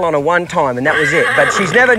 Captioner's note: horse neighing